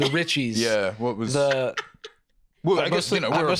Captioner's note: laughs